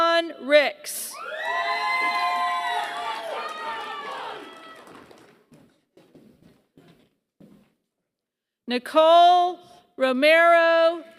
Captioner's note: applause